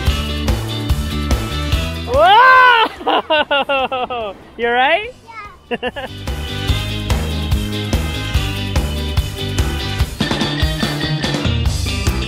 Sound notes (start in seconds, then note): 0.0 upbeat music; 5.6 laughs; 5.8 upbeat music